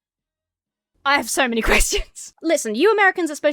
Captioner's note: laughs breathlessly